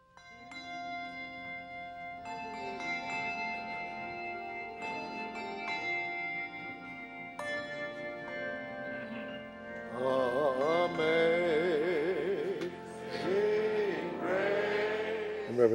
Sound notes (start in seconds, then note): 0.6 bells chiming; 9.6 singing